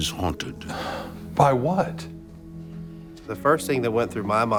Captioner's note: sighs